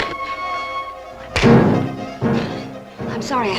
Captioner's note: slapping